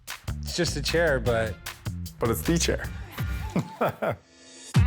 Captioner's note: chuckles